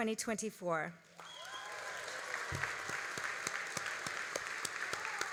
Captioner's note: all applauding